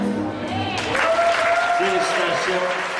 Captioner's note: applause